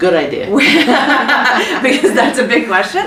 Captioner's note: laughter